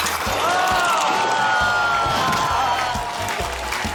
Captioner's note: shot glasses clatter; audience exclaims